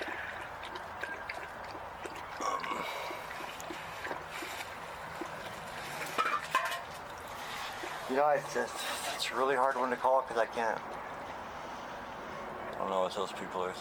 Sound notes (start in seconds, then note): 0.3 dog drinking water; 3.0 metal container falling over